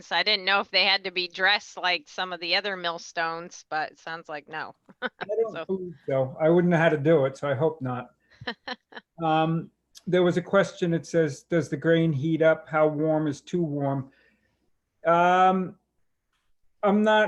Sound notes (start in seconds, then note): 8.4 laughing